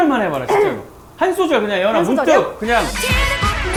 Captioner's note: clearing her throat straight away